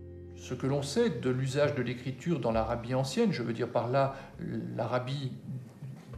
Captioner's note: speaking in a foreign language